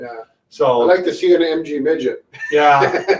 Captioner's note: laughs